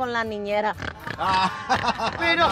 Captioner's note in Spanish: Ríe